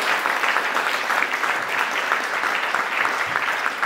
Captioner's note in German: Beifall